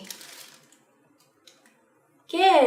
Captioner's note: ruffled plastic sound continued